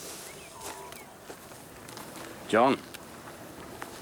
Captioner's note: footsteps tapping